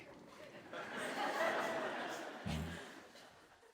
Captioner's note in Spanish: Risas